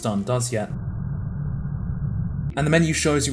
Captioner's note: distant ambient rumbling